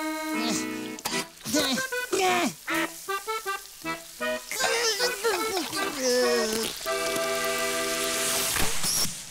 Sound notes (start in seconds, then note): 1.4 grunting; 4.5 grunting